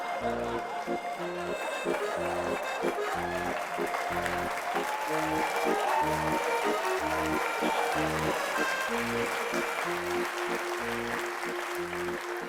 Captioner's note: applause